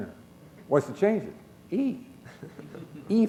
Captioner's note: chuckle